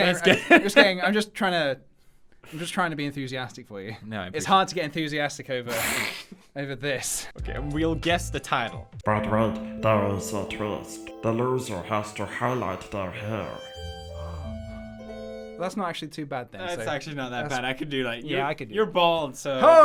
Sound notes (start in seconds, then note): 13.9 both gasp